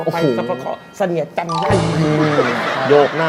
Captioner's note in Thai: หัวเราะ